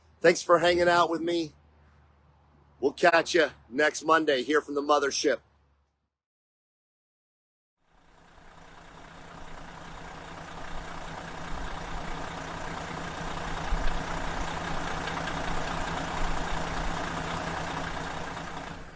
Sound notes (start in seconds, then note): 8.4 coach engine idling